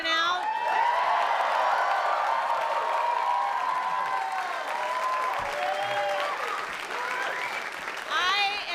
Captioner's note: cheering